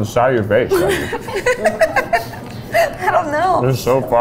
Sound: laughing

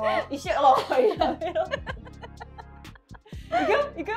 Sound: laughs

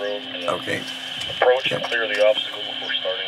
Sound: radio voice

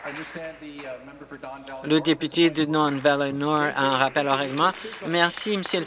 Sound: applause

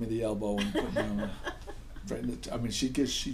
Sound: voiceover; laughing

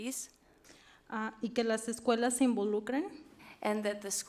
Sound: speaks foreign language

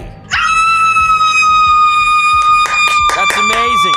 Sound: screaming

